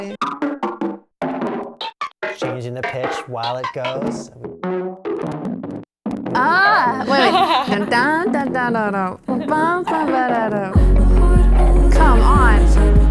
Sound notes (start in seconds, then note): 0.2 filtered and effected vocal chops; 4.2 filtered and effected vocal chops; 6.3 laughing; 7.9 vocalizing to the computer; 10.7 vocal chops layered over the song